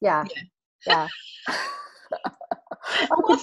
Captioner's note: both laughing